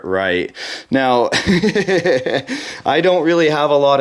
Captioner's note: laughing